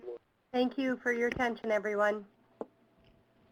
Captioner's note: voiceover